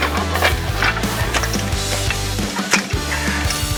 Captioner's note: metals clanking; upbeat music